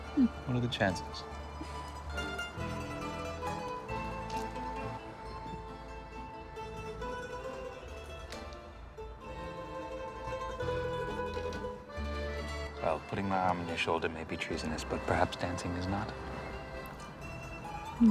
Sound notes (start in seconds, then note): 1.4 laughs